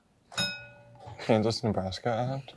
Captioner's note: bell dings